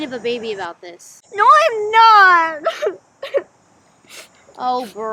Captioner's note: cries